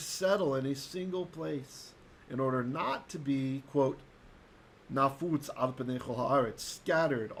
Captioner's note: Hebrew